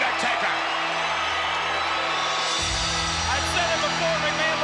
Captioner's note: crowd cheers